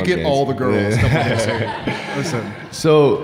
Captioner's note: audience laughing